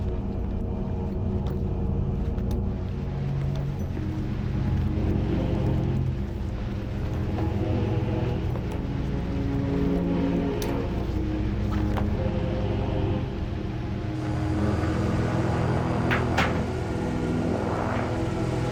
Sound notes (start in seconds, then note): 14.8 radio buzzing